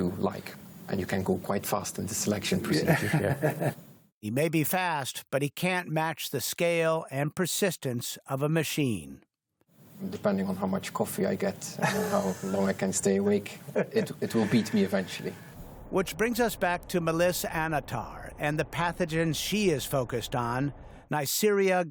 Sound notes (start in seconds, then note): 7.3 laughter